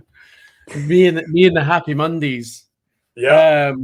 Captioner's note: laughs